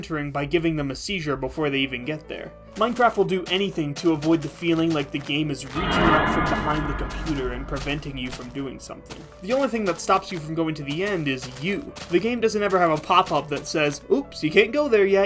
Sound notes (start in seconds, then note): 5.7 scary horror noise